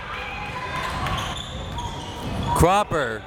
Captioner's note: crowd members shouting